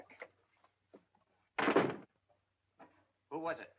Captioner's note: door closes